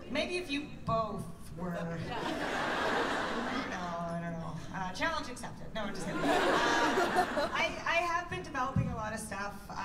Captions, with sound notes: Maybe if you both were-- [laughter] Challenge accepted! No, just kidding. [laughter] I have been developing a lot of stuff.